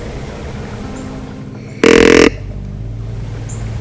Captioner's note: soft music; louder grunt call